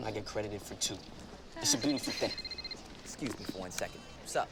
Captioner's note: phone rings